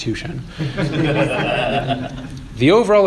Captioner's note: laughter